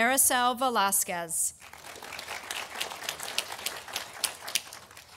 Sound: audience applauding

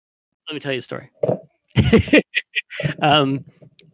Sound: laughs

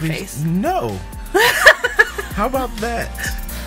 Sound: laughs

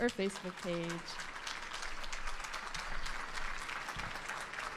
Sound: audience applauding

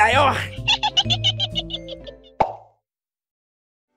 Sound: chuckle

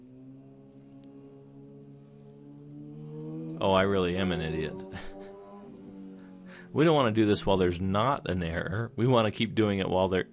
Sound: laughing

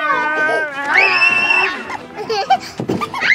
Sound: screams

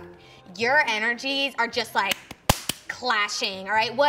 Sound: clapping

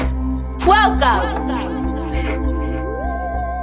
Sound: echoes

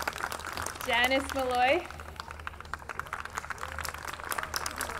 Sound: audience clapping

